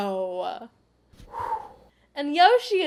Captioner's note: deep breath